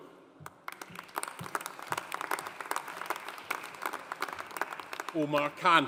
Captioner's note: audience applauding